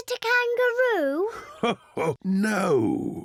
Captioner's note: chuckles